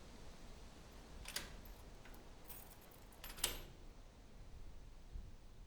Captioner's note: door handle clicking